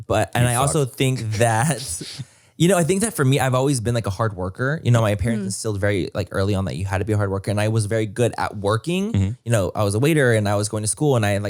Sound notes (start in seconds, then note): 0.4 laughs